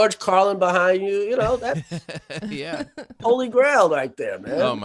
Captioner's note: laughing